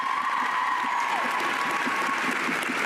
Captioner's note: cheers and applause